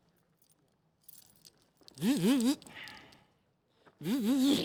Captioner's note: zipper noises